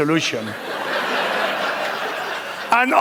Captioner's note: laughter